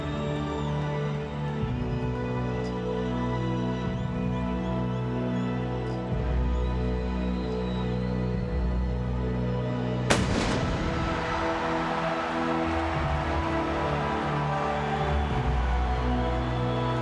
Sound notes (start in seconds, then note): 4.2 crowd chattering; 4.2 dramatic music continues; 11.8 crowd cheering; 11.8 dramatic music continues